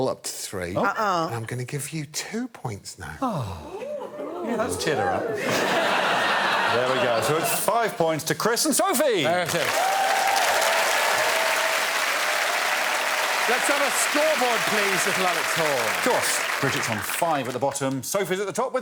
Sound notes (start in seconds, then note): 10.6 applause